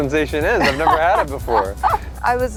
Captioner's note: laughter